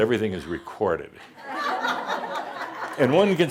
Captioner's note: more chuckles